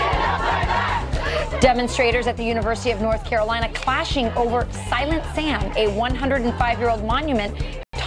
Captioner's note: crowd chanting